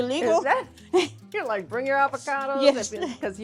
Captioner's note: both laughing